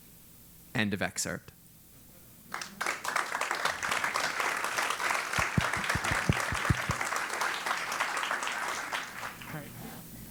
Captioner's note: applause